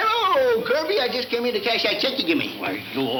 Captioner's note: none